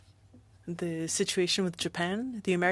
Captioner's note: speaking French